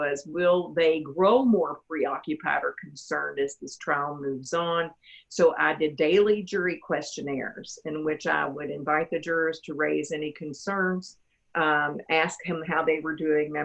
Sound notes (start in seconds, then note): none